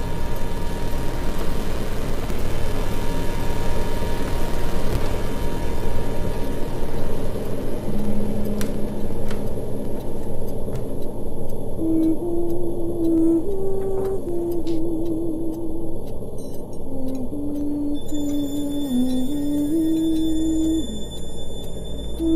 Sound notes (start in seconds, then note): 0.0 clock ticks; 0.1 eerie atmospheric noise; 11.9 woman hums; 18.1 eerie music